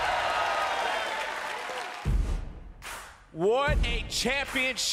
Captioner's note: crowd cheering